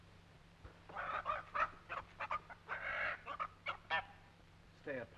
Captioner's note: chickens clucking